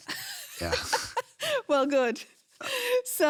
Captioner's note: laughs